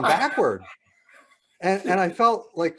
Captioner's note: laughing